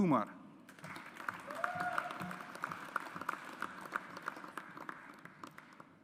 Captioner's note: audience applauds